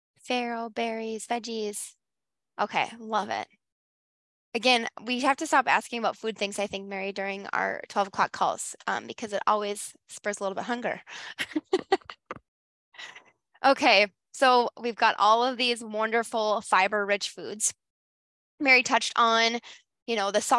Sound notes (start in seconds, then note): 11.3 laughs